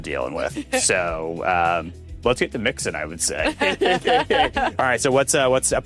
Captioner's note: both laughs